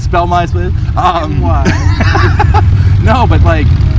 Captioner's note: laughs